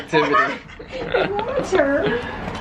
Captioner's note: laughter